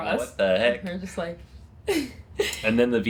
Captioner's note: laughs